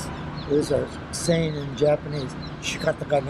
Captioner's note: foreign language